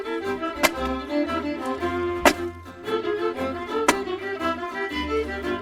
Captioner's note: wood splitting